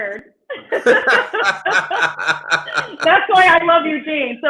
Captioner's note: laughing